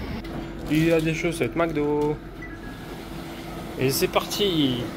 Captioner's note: mocking